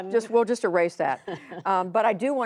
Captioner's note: laughter